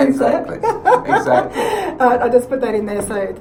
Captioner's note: laughs